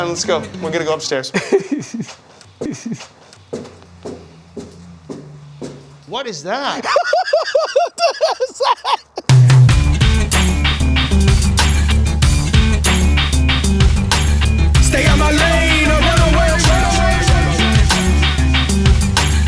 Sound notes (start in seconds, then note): 2.6 laughs; 6.6 laughs; 9.3 upbeat music